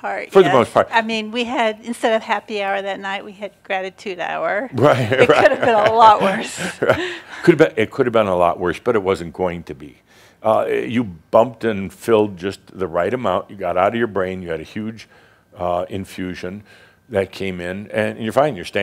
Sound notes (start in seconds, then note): 4.8 Adamus chuckles; 4.8 she chuckles